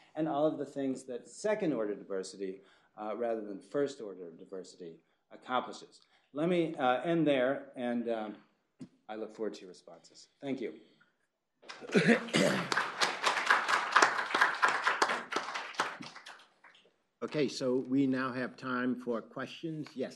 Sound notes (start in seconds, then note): 11.7 applause